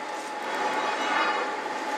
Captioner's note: metallic scraping